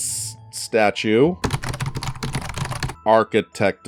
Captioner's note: door knob rattling